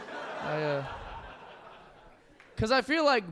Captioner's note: audience laughing